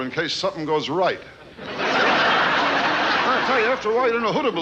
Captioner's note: audience laughing